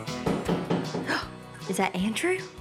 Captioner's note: knock on door